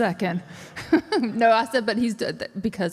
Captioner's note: laughs